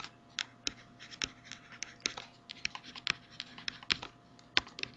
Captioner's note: mouse clicks and swoops